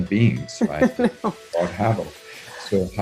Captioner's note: laughing